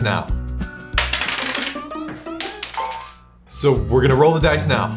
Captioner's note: light playful music; dice rattle